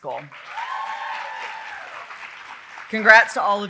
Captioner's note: audience cheering and applauding